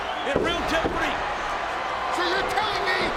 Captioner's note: audience cheers